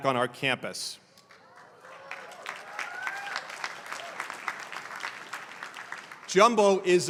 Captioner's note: applause